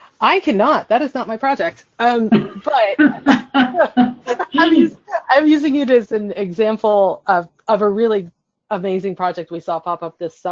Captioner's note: laughs